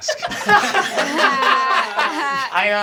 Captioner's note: everyone laughing